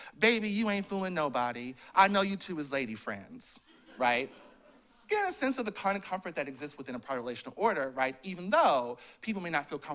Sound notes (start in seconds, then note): 3.6 laughter